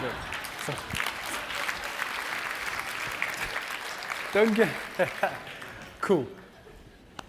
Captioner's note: applause